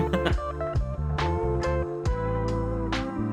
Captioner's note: laughs